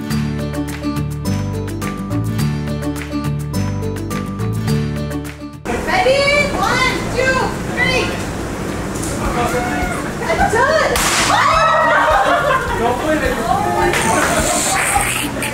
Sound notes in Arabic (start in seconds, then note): 0.0 موسيقى بهيجة; 10.9 فرقعة عالية; 12.3 الناس يهتفون